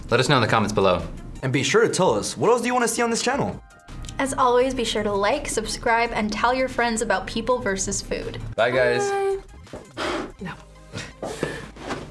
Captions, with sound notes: Let us know in the comments below. - And be sure to tell us what else do you wanna see on this channel? - As always, be sure to like, subscribe, and tell your friends about People Vs Food. - Bye guys! - Bye! No. (laughs)